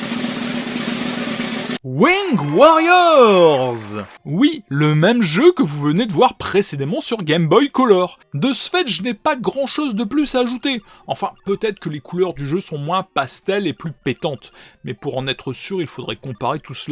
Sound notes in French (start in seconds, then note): 2.0 Applaudissement